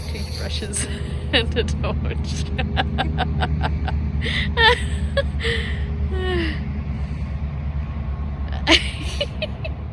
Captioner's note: chortles; giggles; both giggle